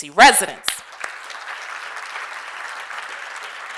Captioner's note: applause